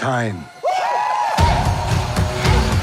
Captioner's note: cheering